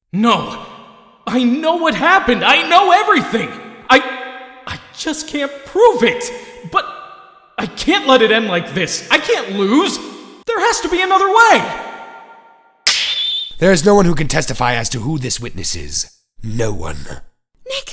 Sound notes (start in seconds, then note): 12.8 snap!